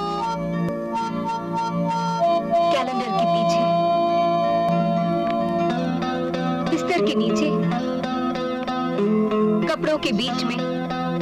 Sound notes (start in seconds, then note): none